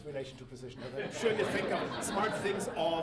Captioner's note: audience laughing